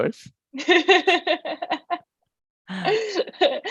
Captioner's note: laughs